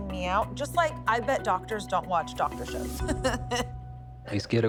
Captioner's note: laughs